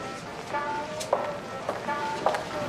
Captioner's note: footsteps on radio